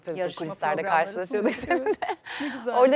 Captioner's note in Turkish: kahkaha